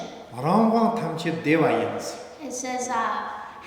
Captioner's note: speaking tibetan